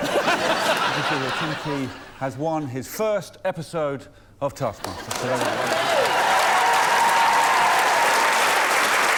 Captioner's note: applause